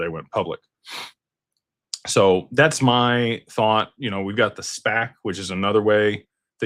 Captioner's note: snorts